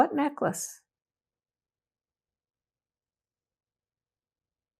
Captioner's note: pauses 6 seconds